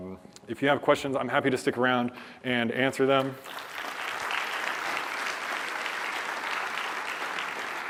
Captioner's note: applause